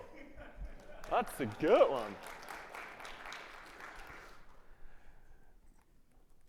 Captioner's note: audience clapping